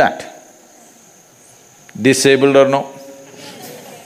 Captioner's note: few Laugh